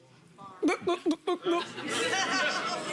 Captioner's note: gulps